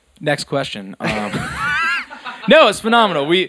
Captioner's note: laughs